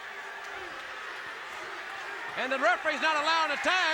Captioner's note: crowd chatter